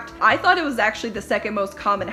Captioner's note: none